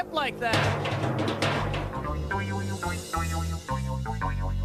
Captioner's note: clunking